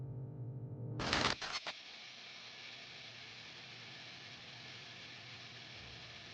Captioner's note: static humming; static crackles